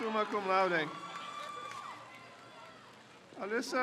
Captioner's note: crowd cheers